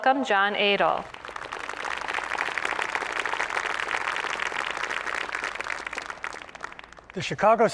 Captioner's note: applause